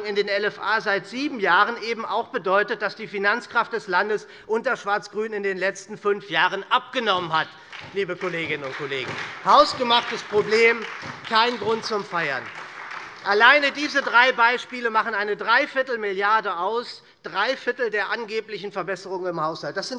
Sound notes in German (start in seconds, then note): 12.6 Beifall SPD und Freie Demokraten